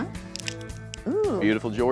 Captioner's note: cracking sound